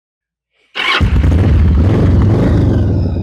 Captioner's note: motor starts